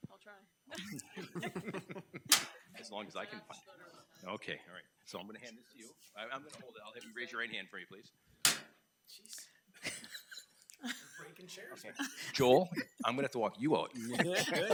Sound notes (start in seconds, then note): 0.8 board laughs